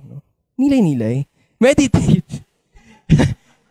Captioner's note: laughs